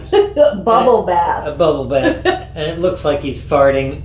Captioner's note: giggle